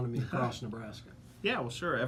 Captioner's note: laughs